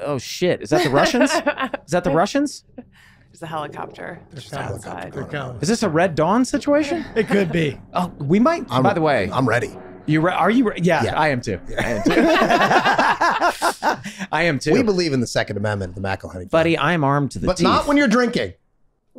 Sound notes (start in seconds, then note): 11.7 group laughing